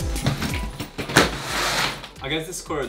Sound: zipper screeches; loud thumping

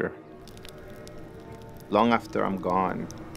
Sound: fire crackling

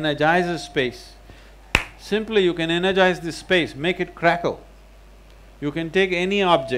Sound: claps his hands

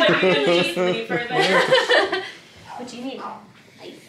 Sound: loud laugh

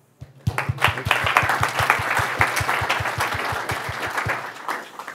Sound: applause

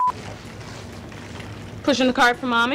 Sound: beep; bag crunching

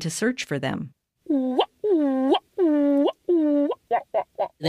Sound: Mimicked ‘Ua‘u calls

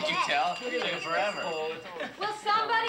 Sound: phone ringing

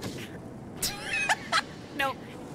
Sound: laughter

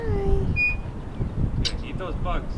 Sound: chirping

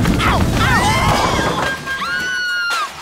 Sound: crash; woman screams

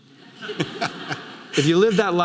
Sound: audience laughing

